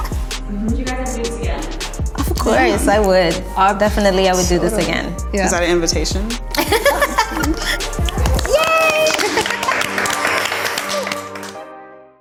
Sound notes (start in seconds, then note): 6.5 women laughing; 9.4 women clapping